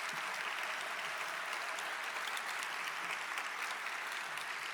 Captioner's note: audience applauding